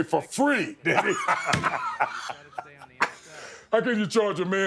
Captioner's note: both laughing